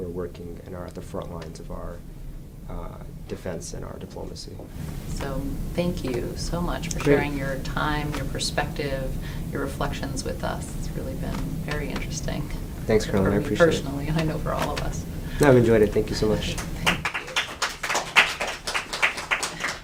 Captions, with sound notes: and are at the front lines of our defense and our diplomacy. - So thank you so much for sharing your time, your perspective, your reflections with us. It's really been very interesting. - Thanks Caroline I appreciate. - Personally and I know for all of us. - I have enjoyed it, thank you so much. (applause)